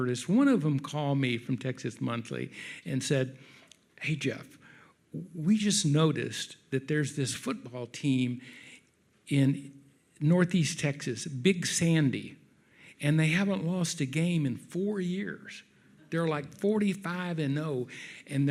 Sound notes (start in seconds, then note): none